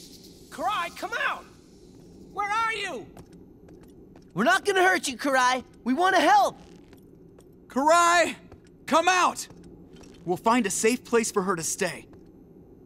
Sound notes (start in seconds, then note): none